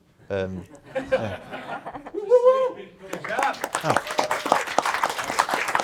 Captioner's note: attendees laughing and clapping